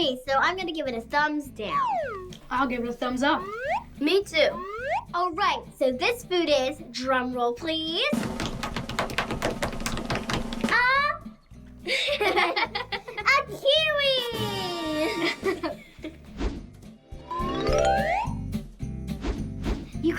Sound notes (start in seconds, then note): 8.1 drumroll; 11.9 laughs; 17.6 playful music